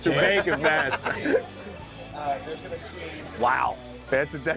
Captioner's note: laughter